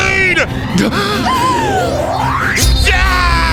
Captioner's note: both Gasping in Fear